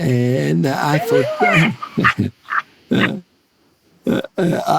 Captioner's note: laugh